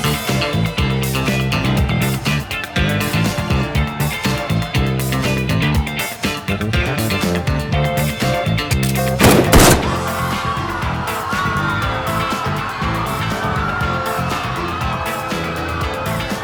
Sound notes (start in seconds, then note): 9.2 gunshots; 9.7 people screaming over Disco Music